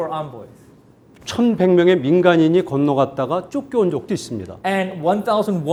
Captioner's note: speaking in Korean